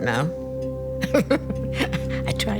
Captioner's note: laughs